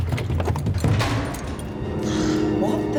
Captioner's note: keys jangle, lock turns